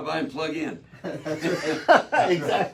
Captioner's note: all laugh